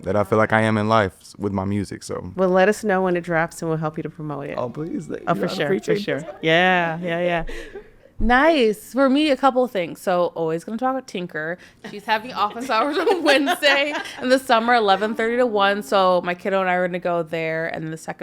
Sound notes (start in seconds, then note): 5.3 podcasters chuckling; 11.9 podcasters laughing